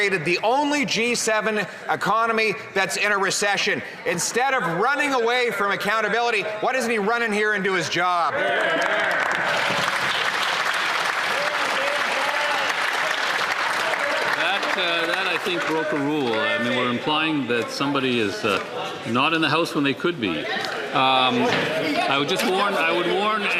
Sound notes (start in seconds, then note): 15.7 some Applause